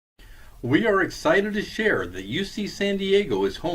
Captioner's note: voiceover